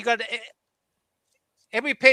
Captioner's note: non-english speech